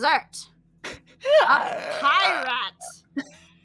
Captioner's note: screeches